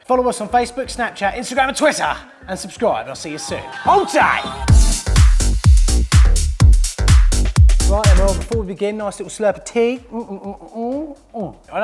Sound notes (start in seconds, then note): 3.2 yells; 4.9 upbeat music